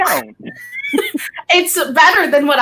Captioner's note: both chuckling